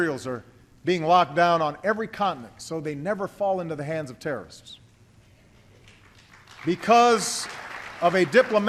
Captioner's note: applause